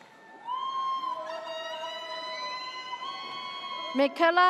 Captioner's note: audience cheers